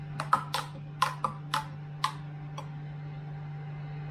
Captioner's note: spoon clinks